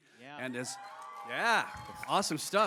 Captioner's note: cheers